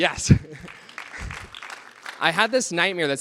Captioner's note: applause